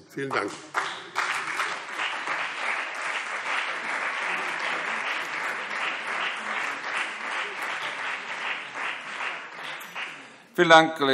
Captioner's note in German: Beifall BÜNDNIS 90/DIE GRÜNEN, CDU und Freie Demokraten